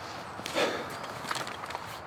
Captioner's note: sigh